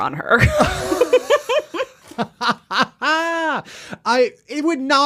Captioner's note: laughing